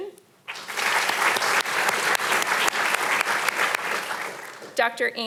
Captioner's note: audience applauding